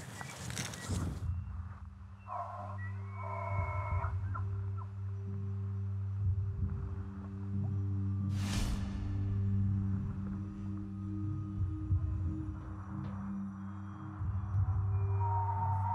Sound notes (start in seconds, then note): 2.2 elk bugling; 2.4 ominous music